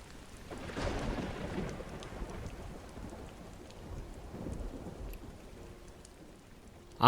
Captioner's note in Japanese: 雨の音